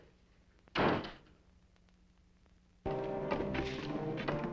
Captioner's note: door slamming; dramatic music